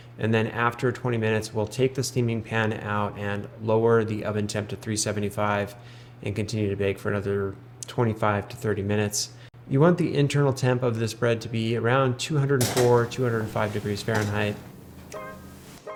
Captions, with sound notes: and then after 20 minutes, we'll take the steaming pan out and lower the oven temp at 375 and continue to bake for another 25 to 30 minutes. You want the internal temp of this bread to be around 204, (pan clatters) 205 degrees Fahrenheit.